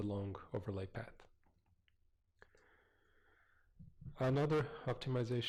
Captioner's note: pause